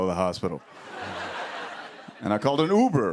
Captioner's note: laughter